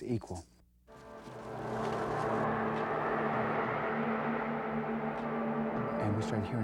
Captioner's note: ominous Wind